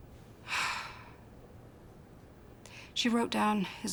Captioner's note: sighs